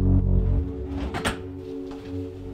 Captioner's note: drawer closing